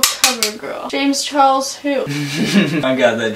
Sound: laughs

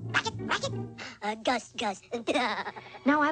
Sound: chuckles

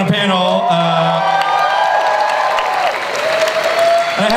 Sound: audience cheers and applauds

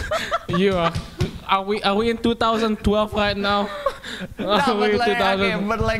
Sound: laughing

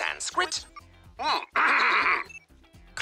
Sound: clears throat

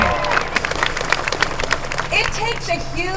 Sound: applause

